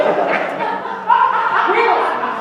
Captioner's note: laughter